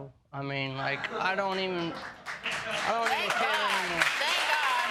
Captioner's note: laughing